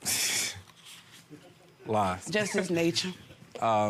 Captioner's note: laughs